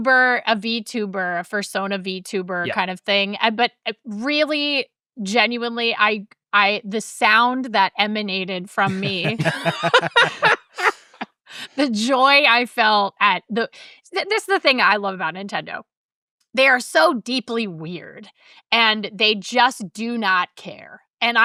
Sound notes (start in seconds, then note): 8.8 laughing